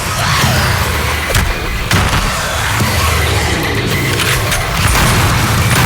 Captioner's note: demons screeching; thuds; gunshots booming